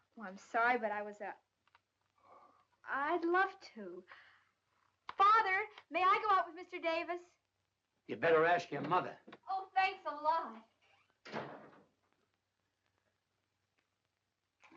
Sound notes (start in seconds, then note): 10.9 door closes